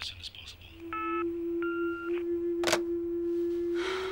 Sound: beeping

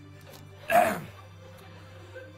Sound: clears throat

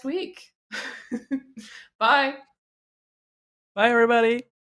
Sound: laughs

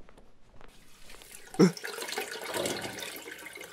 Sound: sound of water dripping

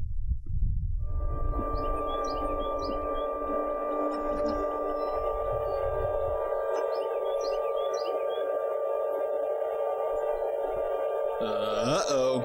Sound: eerie Sound

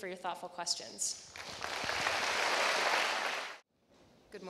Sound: applause

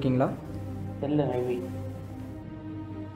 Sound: in a sad voice

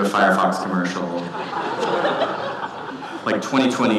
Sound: audience laughing

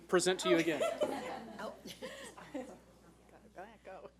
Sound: laughing

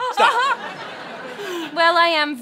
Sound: laughter

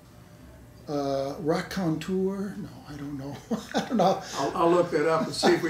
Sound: laughs

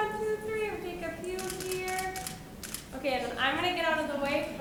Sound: camera clicking

